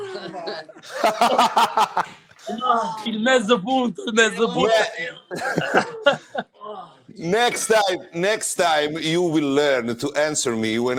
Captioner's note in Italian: Risate; Risate